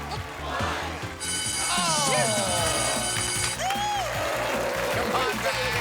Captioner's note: bell rings